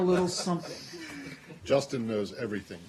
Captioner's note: laughter